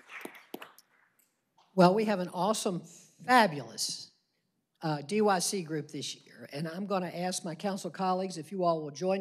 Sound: applause

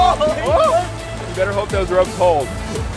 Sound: shouting

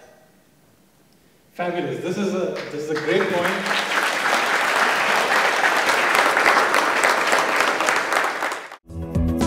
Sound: applause

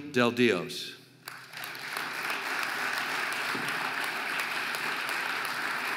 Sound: audience applauding

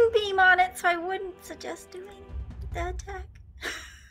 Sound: laughs

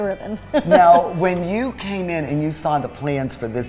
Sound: laugh

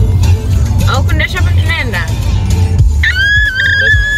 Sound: screams with excitement

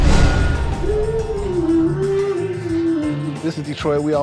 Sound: woman humming

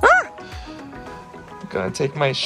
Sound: screaming

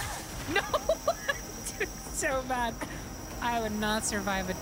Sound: laughing

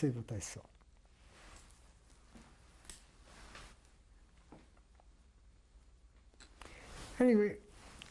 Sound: pauses for 6 seconds

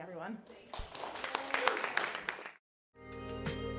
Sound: audience applauding; bright music

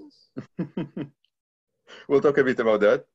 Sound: both laughing

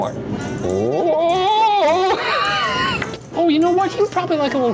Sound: laughs

